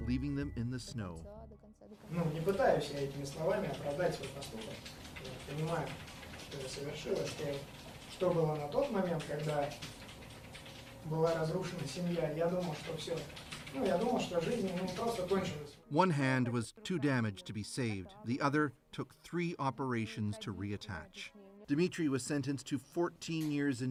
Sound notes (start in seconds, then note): 6.9 speaking russian